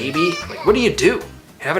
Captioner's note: baby moans